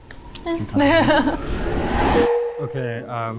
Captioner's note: laughs; title beeps